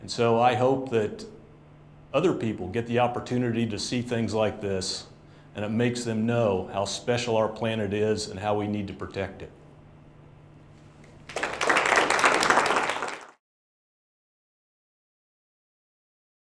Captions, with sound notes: And so I hope that other people get the opportunity to see things like this and it makes them know how special our planet is and how we need to protect it. [APPLAUSE]